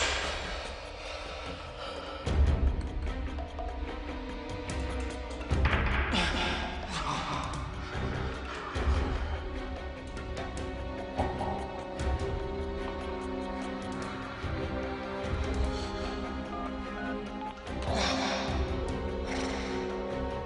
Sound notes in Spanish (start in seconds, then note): 16.9 Sonido al marcar